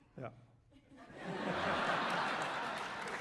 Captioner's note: laughter; applause